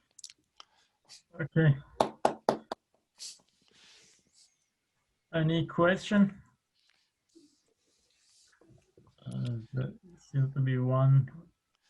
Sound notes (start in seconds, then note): 1.9 hands clapping